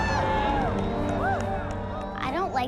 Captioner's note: applause